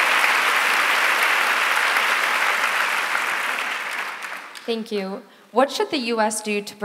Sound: applause

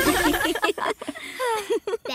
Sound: laughing; sighing

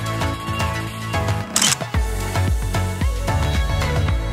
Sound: camera clicks

